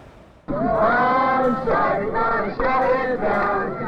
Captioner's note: chanting